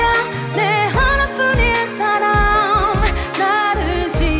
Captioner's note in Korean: 흥얼